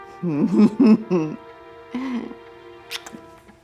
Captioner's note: laughing